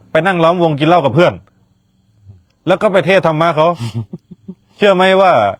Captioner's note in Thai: เสียงหัวเราะ